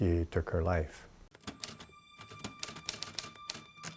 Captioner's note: keyboard clacking